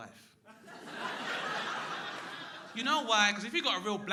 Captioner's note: crowd laughing